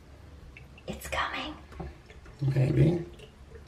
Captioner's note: water trickling